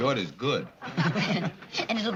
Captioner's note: chuckles